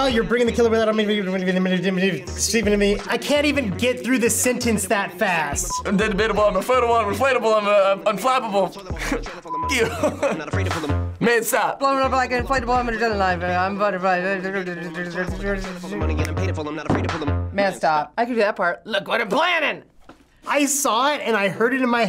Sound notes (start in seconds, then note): 1.9 rapping gibberish; 6.0 rapping gibberish; 8.9 chuckles; 12.8 rapping gibberish; 12.8 snaps